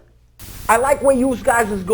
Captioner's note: static crackling